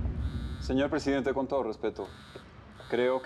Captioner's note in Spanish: Celular sonando